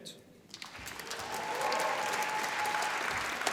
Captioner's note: applause